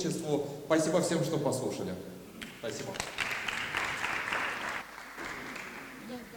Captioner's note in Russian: аплодисменты